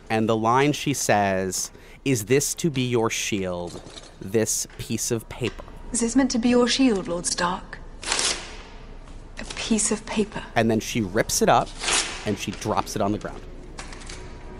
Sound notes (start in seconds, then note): 8.0 paper ripping